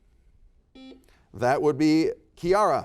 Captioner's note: buzzer beeps